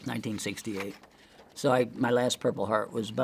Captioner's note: paper crinkling